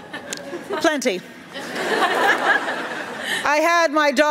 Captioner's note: laughter